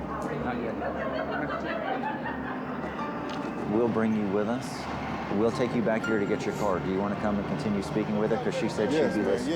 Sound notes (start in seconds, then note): 0.7 laughter